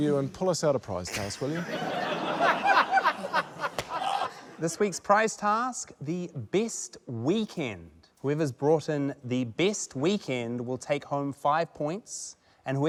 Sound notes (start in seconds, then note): 3.3 laughter